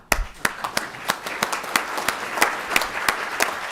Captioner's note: applause